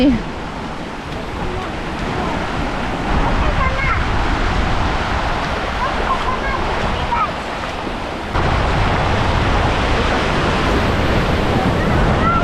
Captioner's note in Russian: шум моря